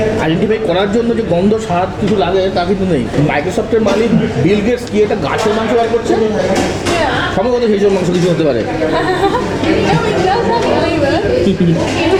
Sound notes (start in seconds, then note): 8.8 chuckling